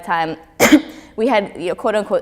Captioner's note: coughs